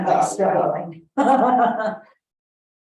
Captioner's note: laughs